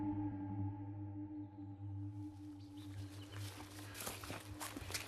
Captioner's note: forest din